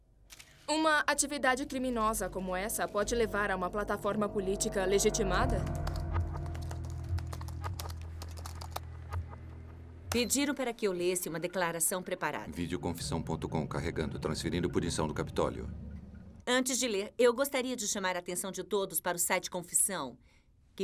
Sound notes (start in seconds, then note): 5.7 typing; 10.3 beeps